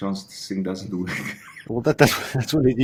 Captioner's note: giggles